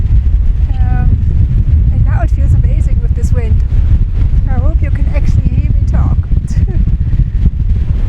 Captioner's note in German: lacht